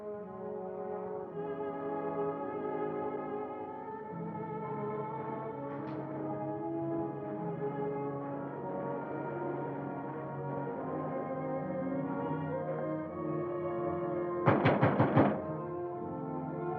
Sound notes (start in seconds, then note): 0.2 somber music; 14.4 knocking on door